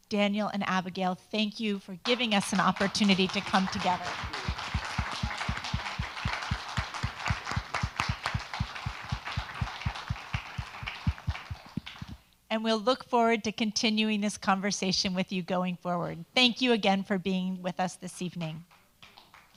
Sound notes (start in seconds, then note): 4.2 all applaud